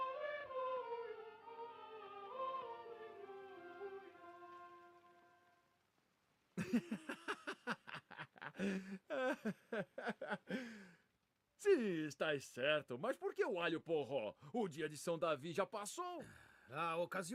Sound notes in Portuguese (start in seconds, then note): 6.6 risadas